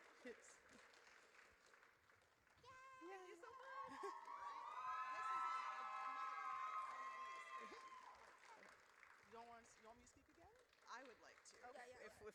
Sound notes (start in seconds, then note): 2.6 audience cheers